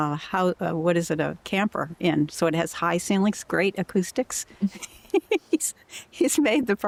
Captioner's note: laughter